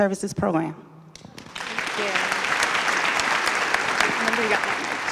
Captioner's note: applause